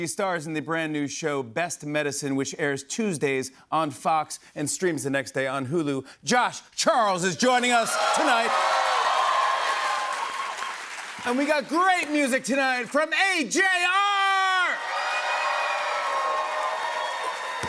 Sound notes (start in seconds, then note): 9.0 cheers and applause; 14.8 cheers and applause